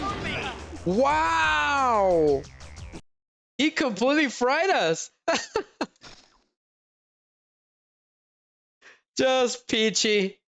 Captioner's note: laughter